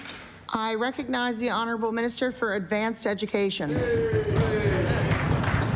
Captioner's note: applause